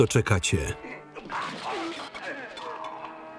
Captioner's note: grunting